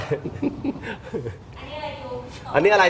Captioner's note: laughter